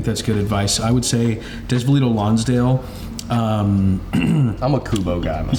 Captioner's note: clears throat